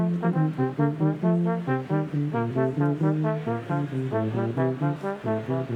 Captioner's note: crowd chattering; triumphant music continues